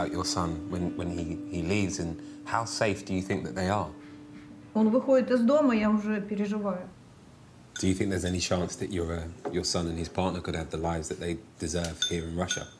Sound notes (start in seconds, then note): 4.4 speaking in foreign language